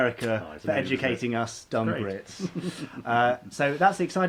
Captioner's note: laughing